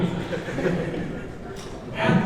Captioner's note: laughs